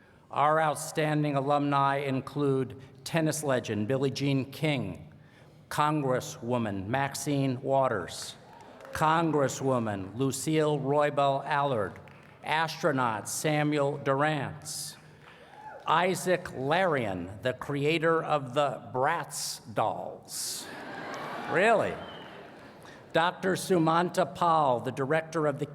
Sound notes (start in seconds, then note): 20.6 laughter